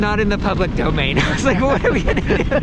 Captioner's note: laughing